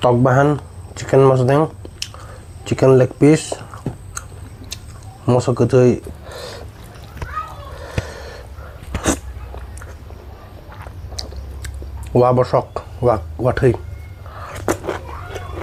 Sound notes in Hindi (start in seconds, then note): 7.7 नाक से की जाने वाली आवाज़